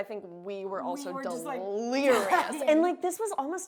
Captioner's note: laughs